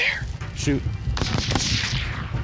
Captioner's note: gunshots